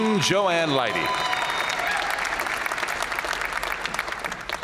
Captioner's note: audience cheering